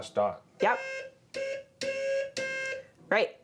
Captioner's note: beeping